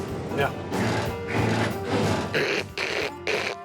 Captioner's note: imitates grinding gears; grinds gears